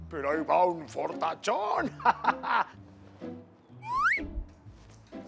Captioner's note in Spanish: Ríe